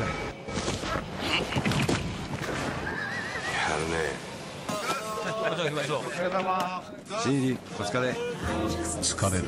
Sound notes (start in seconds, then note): 2.9 laughs; 2.9 worker speaks in Japanese; 4.8 workers speak in Japanese; 7.3 worker speaks in Japanese